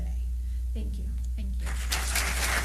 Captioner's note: applause